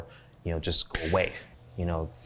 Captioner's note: finger snaps